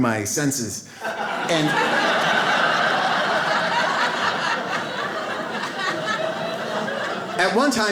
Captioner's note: audience laughs